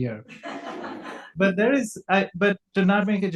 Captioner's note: audience laughs